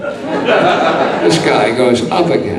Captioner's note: audience laughing